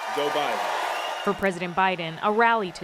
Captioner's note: cheering and applause